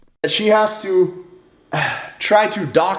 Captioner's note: none